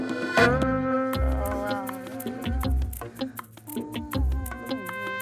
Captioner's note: Humming